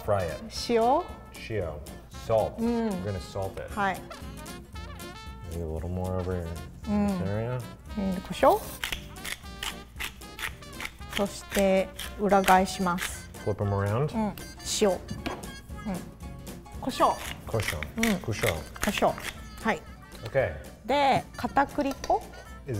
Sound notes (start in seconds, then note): 0.4 speaks in foreign language; 4.3 speaks in foreign language; 8.1 speaks in foreign language; 8.8 grinder cracking; 11.3 speaks in foreign language; 14.5 speaks in foreign language; 17.0 both speak in foreign language; 21.2 speaks in foreign language